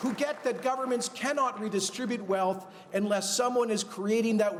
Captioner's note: cheers and Applause